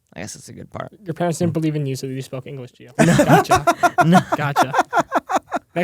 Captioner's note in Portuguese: risos